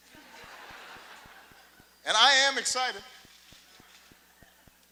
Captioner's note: laughter